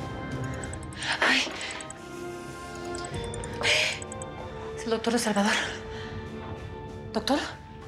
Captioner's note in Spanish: suena el celular